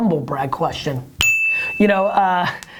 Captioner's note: bell